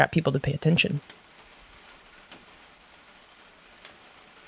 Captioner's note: rain pattering